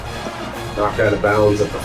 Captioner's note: crowd Noises